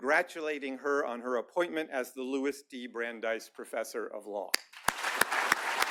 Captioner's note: applause